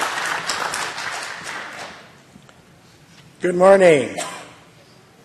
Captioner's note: applause